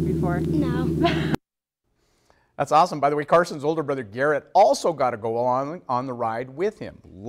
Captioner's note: laughs